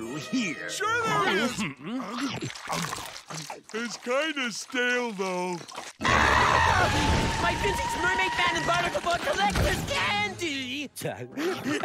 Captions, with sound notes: Sure there is! It's kind of stale, though. [screaming] My Physics Mermaid Man and Barnacle Boy collectors candy!